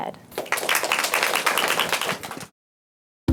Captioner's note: applause